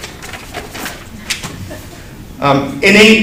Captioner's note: laughs